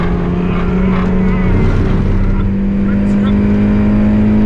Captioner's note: car engine roars